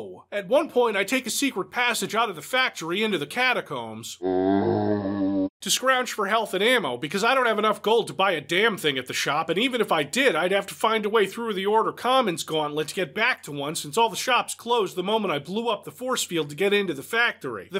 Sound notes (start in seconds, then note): 4.2 zombie groan